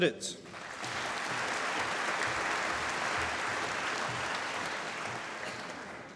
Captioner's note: applause